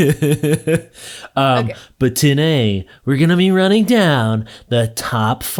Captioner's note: laughing